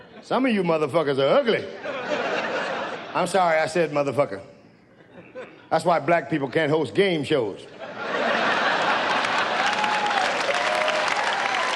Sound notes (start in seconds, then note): 1.7 audience laughs; 8.6 audience cheers